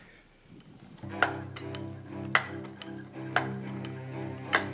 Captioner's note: foot pedal tapping; serene music